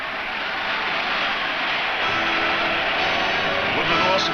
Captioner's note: crowd cheers